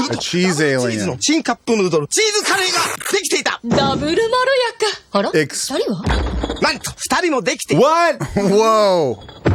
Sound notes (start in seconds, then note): 1.7 narrator speaks foreign language; 3.7 actress speaks foreign language; 7.0 narrator speaks foreign language